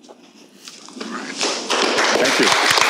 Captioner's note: applause